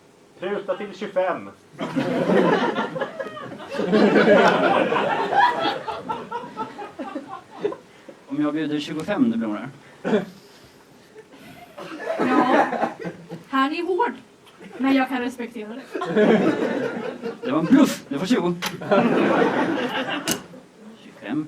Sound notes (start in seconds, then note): 6.3 laughter; 11.1 laughter; 15.8 laughter